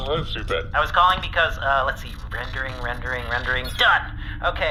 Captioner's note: computer murmurs